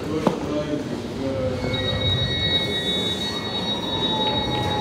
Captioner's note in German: lautes Piepen der S-Bahn-Türen